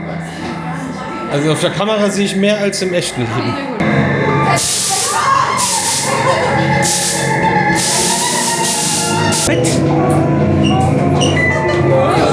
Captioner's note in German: schreien